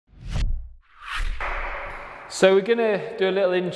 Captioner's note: swooshing